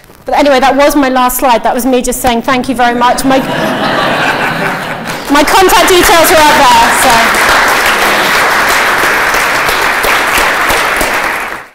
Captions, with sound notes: But, anyway, that was my last slide. That was me just saying thank you very much. My... (audience laughing) My contact details are up there, so... (audience clapping)